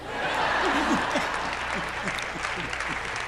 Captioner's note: laughing